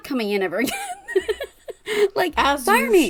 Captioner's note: laughs